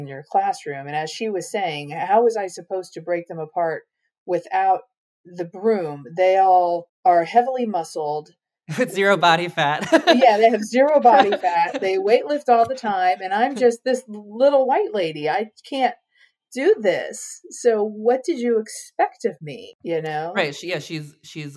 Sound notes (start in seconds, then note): 8.7 laughs